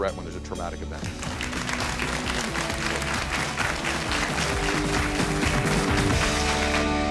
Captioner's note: upbeat music; audience clapping